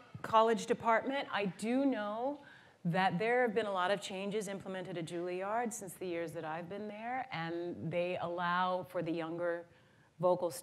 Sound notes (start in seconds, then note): none